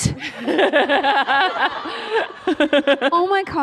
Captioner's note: laughter